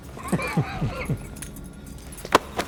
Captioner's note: chuckles